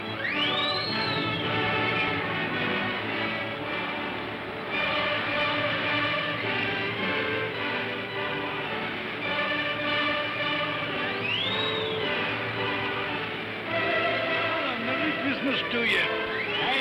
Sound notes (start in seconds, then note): 2.9 music plays; 2.9 sounds of ocean; 13.5 music plays